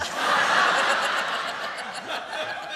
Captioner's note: laughter